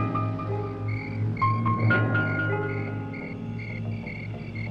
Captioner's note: insects chirping